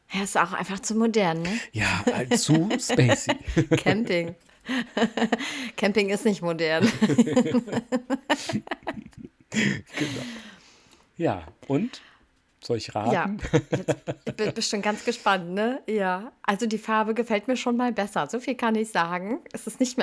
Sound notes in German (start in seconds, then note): 6.8 gelächter; 9.5 japst; 10.5 gelächter